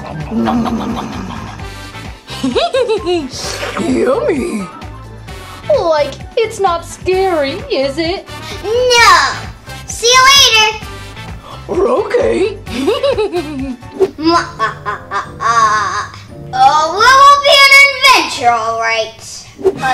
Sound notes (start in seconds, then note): 12.7 laughs